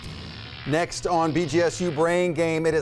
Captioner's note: electricity buzzes